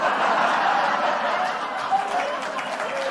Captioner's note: laughter/applause